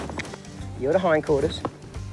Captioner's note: clicking